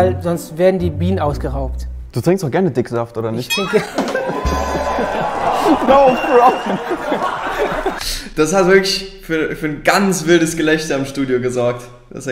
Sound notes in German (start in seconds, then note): 3.5 Jubel, Lachen; 5.8 Er sagt lachend etwas